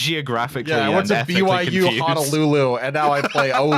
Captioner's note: laughs